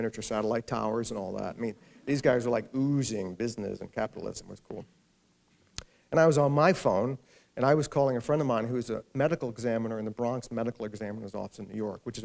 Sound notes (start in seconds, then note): none